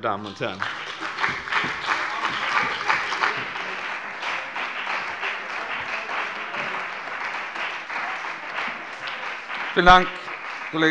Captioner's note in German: Beifall bei dem BÜNDNIS 90/DIE GRÜNEN und der CDU